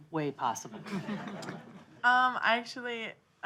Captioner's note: audience laughing